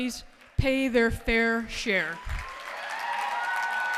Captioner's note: cheers and applause